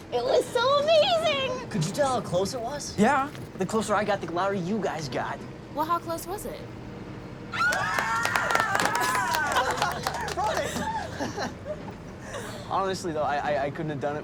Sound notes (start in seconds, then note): 7.6 all cheer and laugh